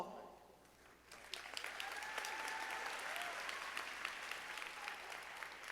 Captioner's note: audience applauding